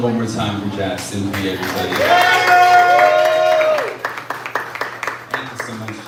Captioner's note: appluase